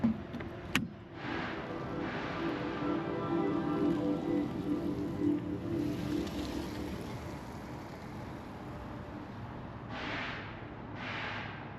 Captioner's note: sounds of a Car driving away